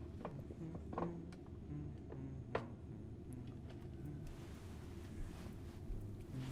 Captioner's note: Doug humming a tune quietly